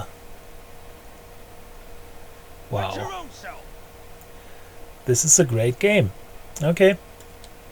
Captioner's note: whith dry sarcarsm